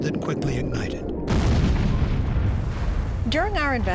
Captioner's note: sound of explosion